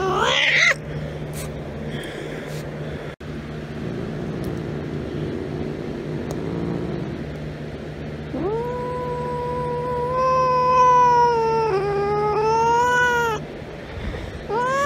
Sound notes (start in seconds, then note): 3.8 Caprice growls; 3.8 Caprice yowls; 14.4 Caprice yowling